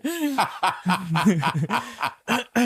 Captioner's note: laughing loudly